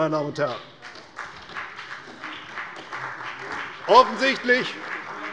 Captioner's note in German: Beifall bei der CDU und dem BÜNDNIS 90/DIE GRÜNEN